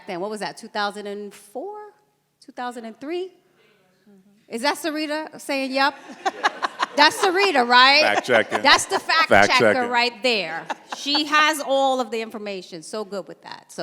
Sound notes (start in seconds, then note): 5.9 laughs; 6.0 audience laughs